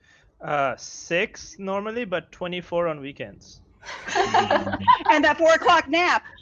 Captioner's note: laughs